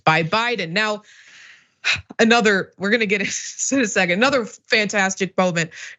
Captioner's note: laugh